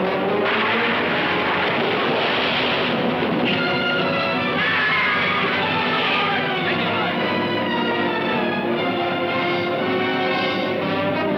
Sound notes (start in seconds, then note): 0.4 wood clattering; 4.4 screaming; 6.0 shouting